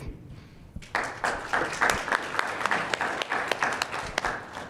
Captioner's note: audience clapping